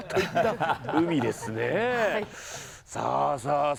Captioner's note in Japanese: 笑い